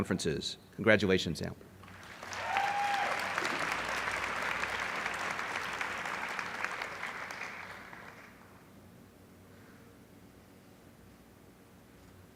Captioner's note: applause